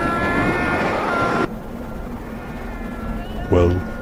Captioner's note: distant screaming